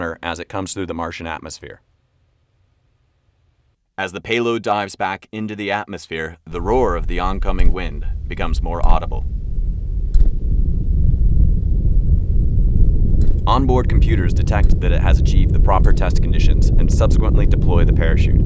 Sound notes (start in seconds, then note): 9.4 wind sounds